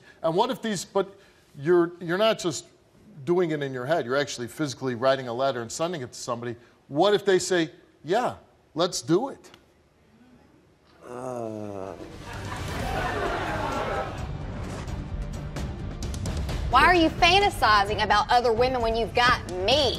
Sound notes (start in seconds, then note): 12.0 audience laughs; 12.0 dramatic music